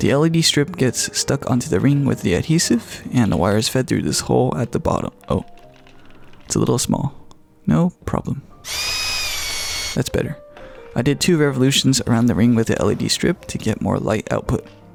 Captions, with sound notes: The LED strip gets stuck onto the ring with the adhesive and the wires fed through this hole at the bottom. Oh, it's a little small. No problem. (drill whirring) That's better. I did two revolutions around the ring with the LED strip to get more light output.